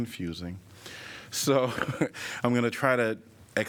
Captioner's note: laughter